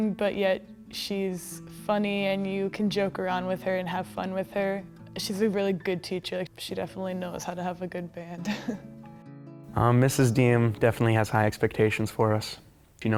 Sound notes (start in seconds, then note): 8.4 laughing